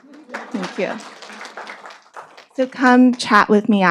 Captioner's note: audience applauding